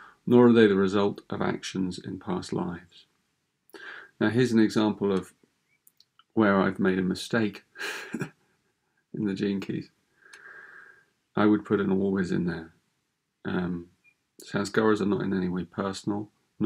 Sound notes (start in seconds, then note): 7.7 chuckles